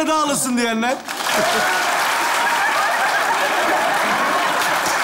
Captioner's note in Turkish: Alkış sesleri